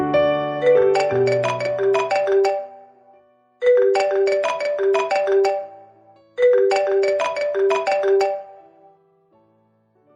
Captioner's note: phone ringing